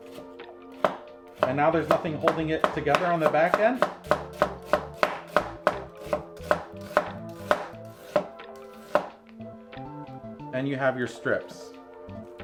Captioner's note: chops